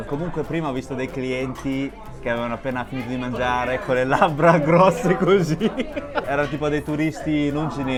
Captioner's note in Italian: risate